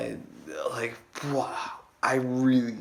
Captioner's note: expressing amazement